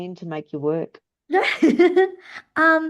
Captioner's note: laughs